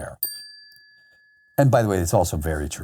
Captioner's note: bell chiming